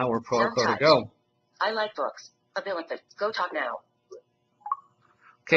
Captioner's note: app talking: I like books. That GoTalk NOW